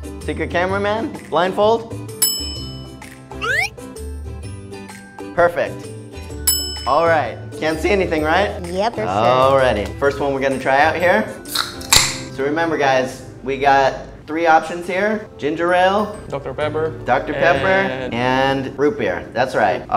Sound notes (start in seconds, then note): 11.6 can clatters